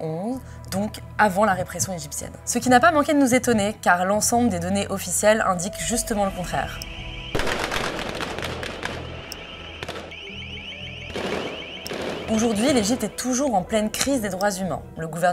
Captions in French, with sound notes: donc avant la répression égyptienne. Ce qui nous a étonnés, l'ensemble des données officielles indiquant le contraire. (sirènes et rafales de balles) --- L'Egypte est toujours en pleine crise des droits humains.